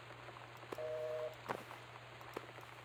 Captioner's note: busy Signal